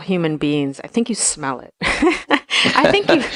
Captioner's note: laughs